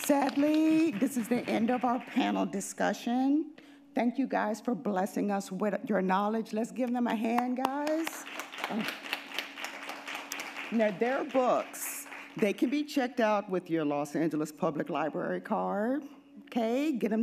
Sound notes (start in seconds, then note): 8.0 audience applauding